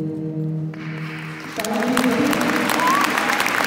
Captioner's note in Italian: applauso